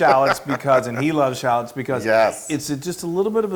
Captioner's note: laugh